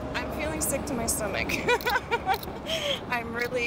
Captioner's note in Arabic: يضحك